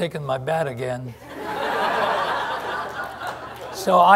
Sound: laughter

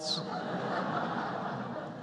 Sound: laughter

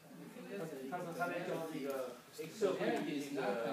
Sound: group chattering; speaking foreign language

